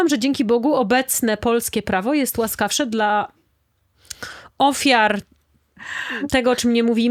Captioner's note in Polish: wciągnięcie powietrza